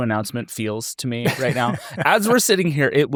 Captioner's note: laughs